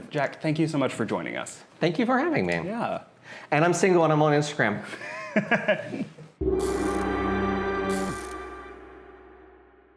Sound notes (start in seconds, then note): 5.2 interviewer laughing; 6.4 intense ambient music